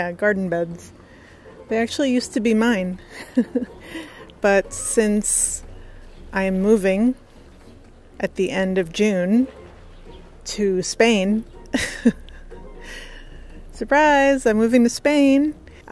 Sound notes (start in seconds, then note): 3.0 laughs; 11.7 laughs